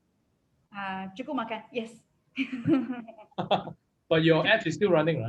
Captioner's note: speaks foreign language; laughs